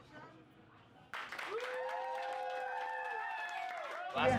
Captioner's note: cheers and applauds